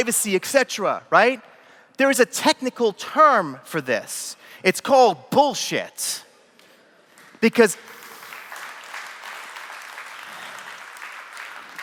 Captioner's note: applause